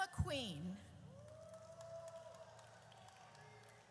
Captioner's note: audience cheers